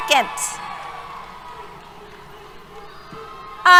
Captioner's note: cheers